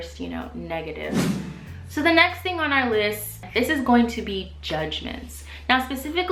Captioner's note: swoosh